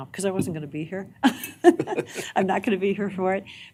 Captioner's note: chuckling